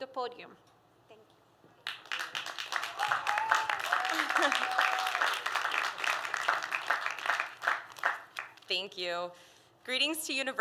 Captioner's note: applause